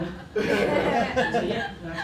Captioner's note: laughter